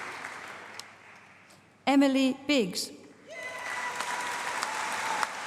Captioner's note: applause